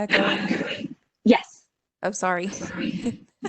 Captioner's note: laughs